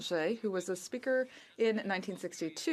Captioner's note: speaking French